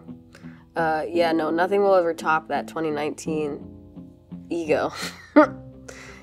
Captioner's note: scoffs